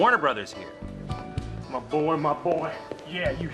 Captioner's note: Imitating Elvis